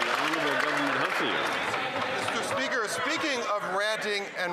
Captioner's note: some Applause